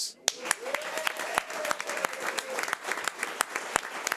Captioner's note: audience applause